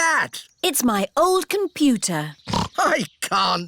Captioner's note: snorts